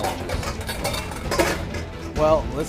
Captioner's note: metal bowls clanking